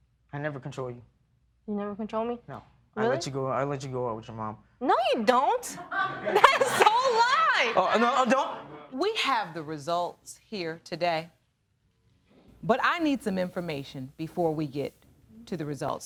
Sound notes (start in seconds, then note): 5.7 laughter